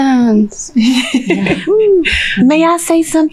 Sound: all laughing

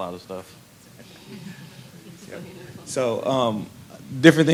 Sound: laughter

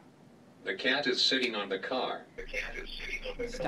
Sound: voiceover

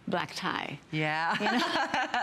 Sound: laughter

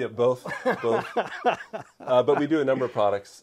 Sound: laughs

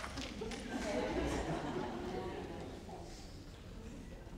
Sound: crowd laughs

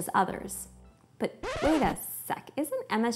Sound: record scratching

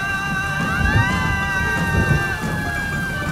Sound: sirens playing

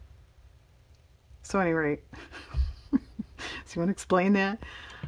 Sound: laughs

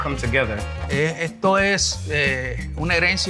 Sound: speaking native language

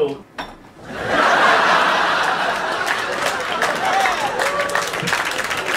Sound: audience laughing and applauding

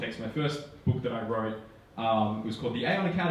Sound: none

